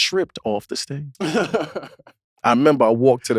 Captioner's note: laughs